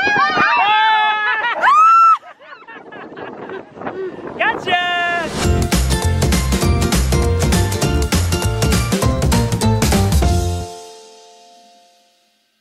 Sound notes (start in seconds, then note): 1.1 laughing; 5.3 cheery music